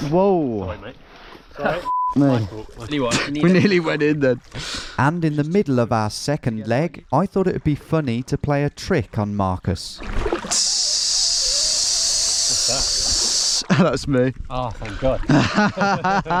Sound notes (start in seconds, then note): 10.4 hissing